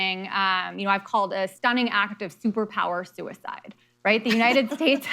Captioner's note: laughter